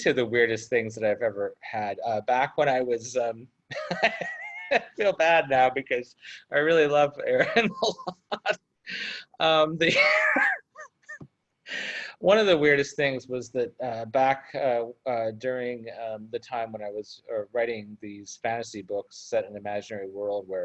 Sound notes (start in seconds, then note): 3.7 laughs; 9.2 laughs